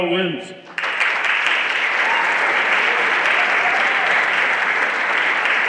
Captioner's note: everyone applauding